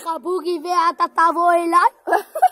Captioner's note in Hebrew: צחוק